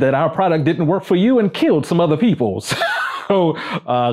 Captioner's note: laughs